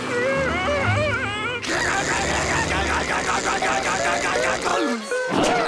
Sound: buzzing; screaming; laughing

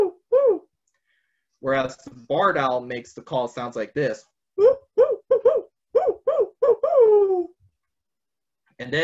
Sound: vocalizes

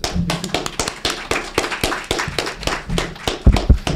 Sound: group applauds

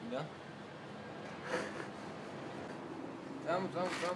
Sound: laughs

